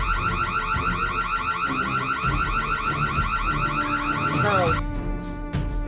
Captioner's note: car alarm continues